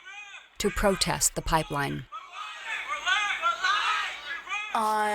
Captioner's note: protestors chanting on video